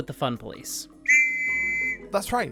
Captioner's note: police whistle